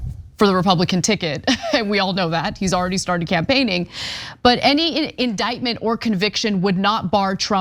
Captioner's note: laugh